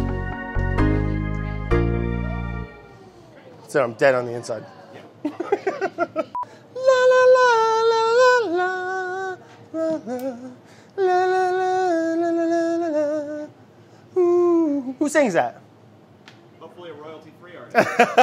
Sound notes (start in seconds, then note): 0.0 upbeat music; 5.2 laughter; 17.7 laughter